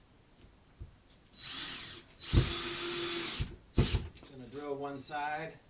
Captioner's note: sound of screw dropping; sound of electric tool